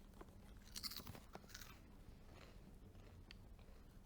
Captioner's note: crunching